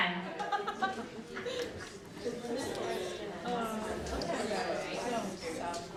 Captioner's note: excited conversations